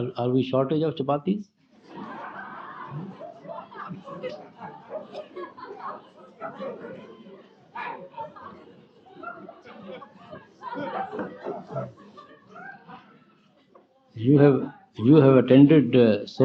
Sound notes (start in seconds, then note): 11.7 much laughter